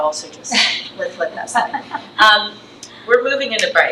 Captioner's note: trustee laughs